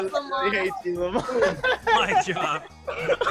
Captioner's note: laughs